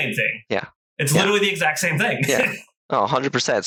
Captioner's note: laughs